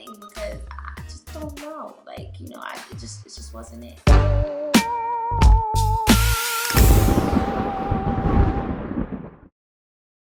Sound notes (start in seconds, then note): 4.0 spooky music plays; 6.7 thunder crashes